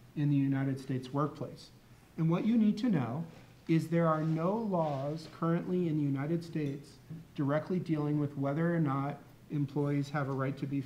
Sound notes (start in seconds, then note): none